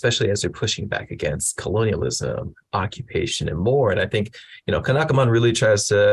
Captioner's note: none